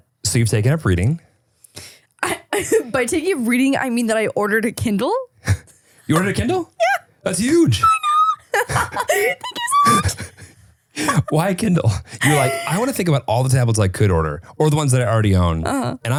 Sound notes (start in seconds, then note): 7.4 laughing; 9.3 squealing; 10.6 laughing